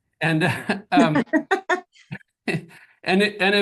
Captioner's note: group laughs